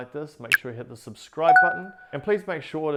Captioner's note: icons binging